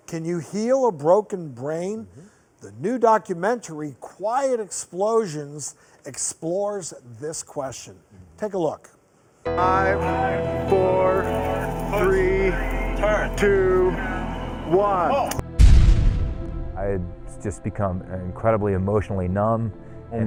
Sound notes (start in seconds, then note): 15.5 explosion on screen